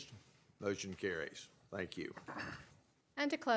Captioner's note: chorus of ayes